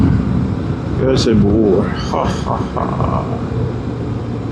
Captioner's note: engine